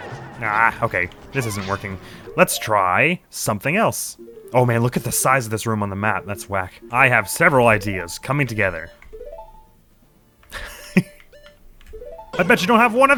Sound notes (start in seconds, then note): 10.5 stifles laughter